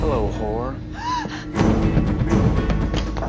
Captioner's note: tense music; gasp